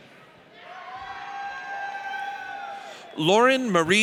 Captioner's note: audience cheers